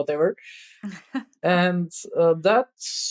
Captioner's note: <Laugh>